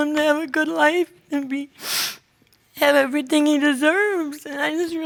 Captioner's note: sniffles